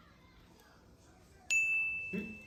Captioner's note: ding!